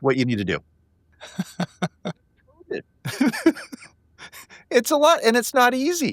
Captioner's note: laughing